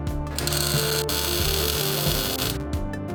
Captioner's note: welding